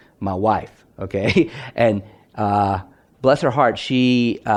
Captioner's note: chuckles